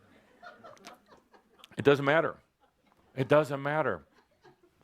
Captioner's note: laughter